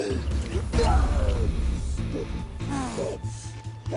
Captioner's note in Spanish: Quejidos